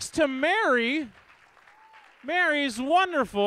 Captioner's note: audience claps